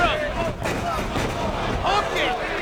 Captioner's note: Tanaka thuds